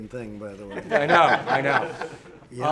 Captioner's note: laughter